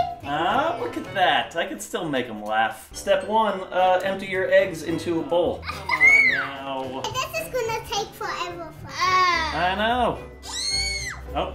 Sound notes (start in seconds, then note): 0.0 giggles a bit; 6.6 groaning; 8.6 makes a sound of disgust